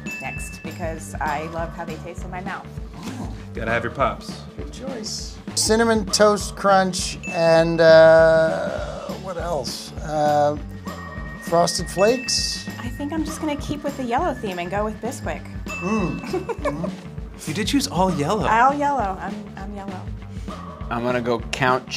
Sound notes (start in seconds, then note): 10.9 bell dings